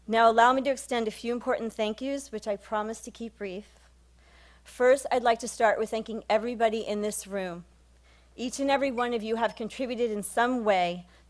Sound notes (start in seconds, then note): none